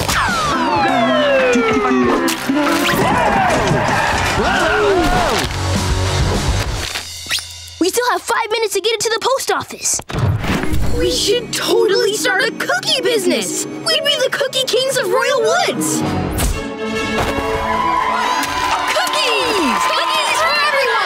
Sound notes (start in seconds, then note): 17.4 cheering